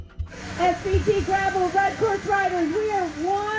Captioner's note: loudspeaker